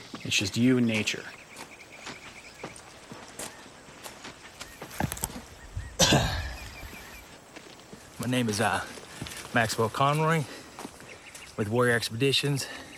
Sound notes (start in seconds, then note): 1.7 birds chirping; 3.5 boots clomping; 5.9 clears throat